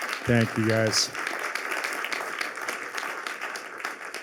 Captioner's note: applause